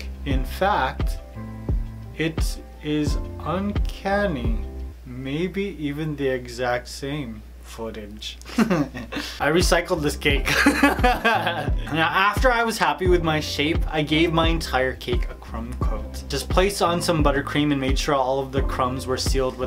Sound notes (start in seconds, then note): 8.4 laughs; 10.4 laughs loudly